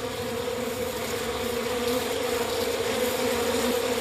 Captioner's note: bees